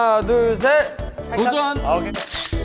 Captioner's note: shouting it alone